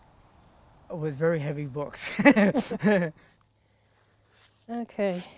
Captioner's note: laughs